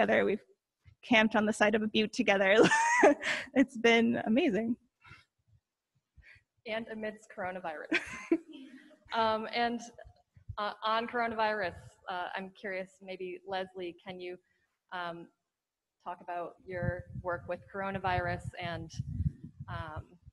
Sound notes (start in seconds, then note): 2.8 laughs